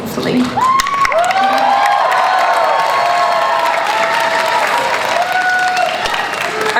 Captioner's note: audience cheers